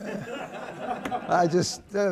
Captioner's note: laughter